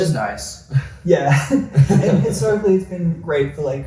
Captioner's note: laughs